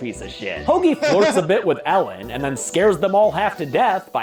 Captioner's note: laughs